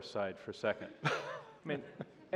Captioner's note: laughter